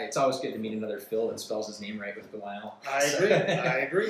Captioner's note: laughs